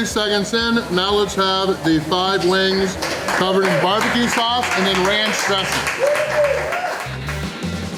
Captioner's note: crowd applause